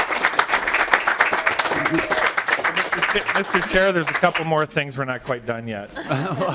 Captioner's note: clapping